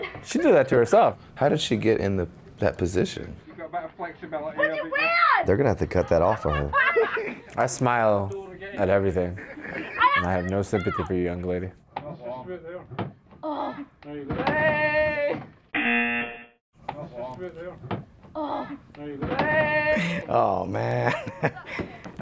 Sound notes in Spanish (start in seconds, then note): 15.7 zumbador; 20.9 risas